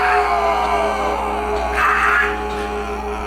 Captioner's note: chorus of groans